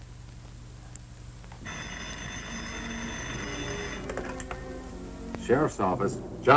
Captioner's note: phone ringing; suspenseful music